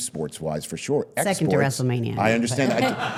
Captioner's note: all laughing